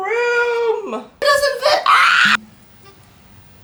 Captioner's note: pterodactyl screech